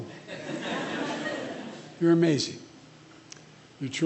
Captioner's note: laughter